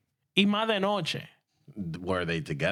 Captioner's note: speaking In Spanish